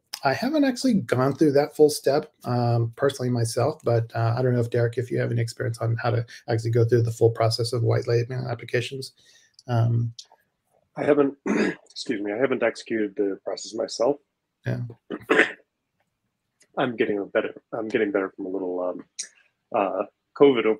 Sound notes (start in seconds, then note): 15.0 throat clearing